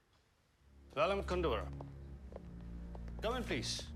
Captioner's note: speaking foreign language